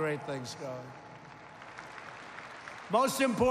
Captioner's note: applause